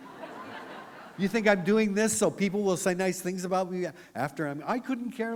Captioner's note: laughter